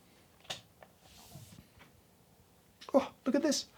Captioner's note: switch flicks